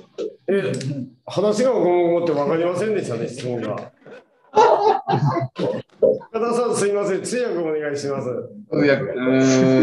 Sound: laughs

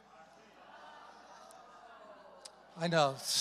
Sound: congregation groans

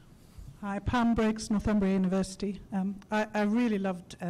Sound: voiceover

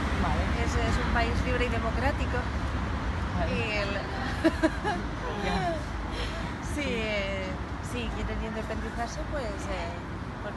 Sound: laughs

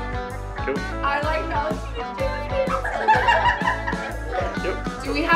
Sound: laughing

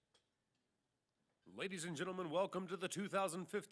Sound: voiceover

